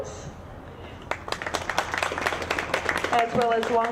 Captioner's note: audience clapping